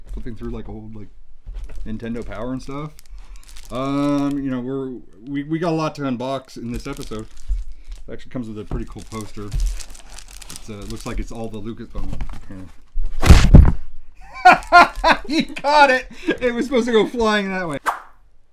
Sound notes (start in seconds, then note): 9.9 plastic rustling; 13.2 exaggerated thunk; 14.2 laughs; 17.8 whipping noise, thud